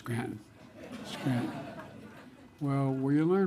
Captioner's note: laughter